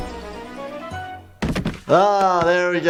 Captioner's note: thud